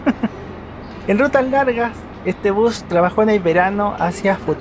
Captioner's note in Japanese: ハハハハ